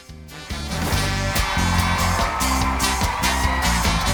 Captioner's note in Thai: ปรบมือ